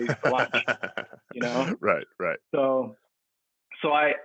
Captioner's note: laughs